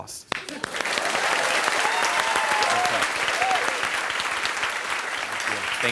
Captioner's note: laughter and applause